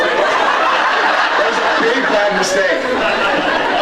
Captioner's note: laughs; scattered laughs